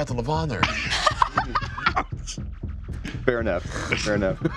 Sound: laughing

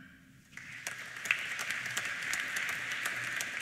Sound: applause

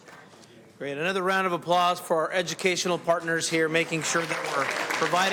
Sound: applause

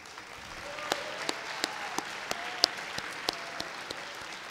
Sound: audience applauding

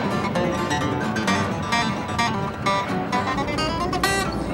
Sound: train chugging

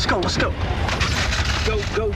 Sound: sounding concerned; car Engine starts

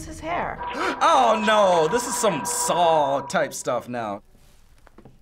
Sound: gasps

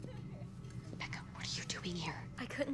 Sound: whispering

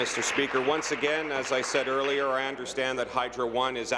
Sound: applause

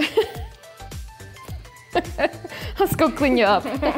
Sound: laughs; both laughs

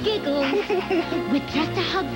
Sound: Pooh chuckles

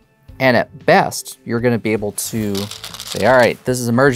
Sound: stones rattling

